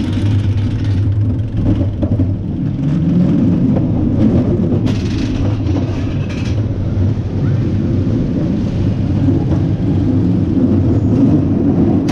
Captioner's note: roller coaster noises